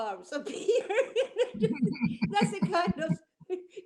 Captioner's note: laughing